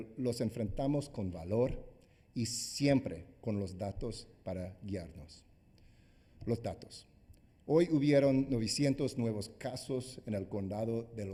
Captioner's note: speaking spanish